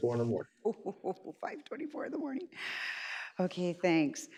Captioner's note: laughs